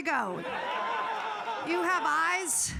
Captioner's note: audience laughing